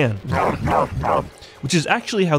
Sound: Tyranids grunt

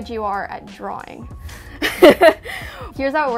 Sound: sighs

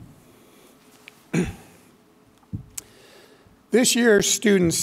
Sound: clears throat

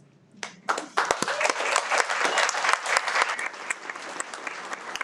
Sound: everyone applauds

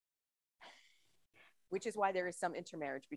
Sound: chuckles

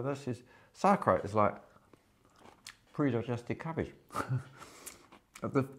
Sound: chuckles

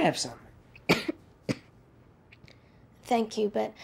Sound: coughing

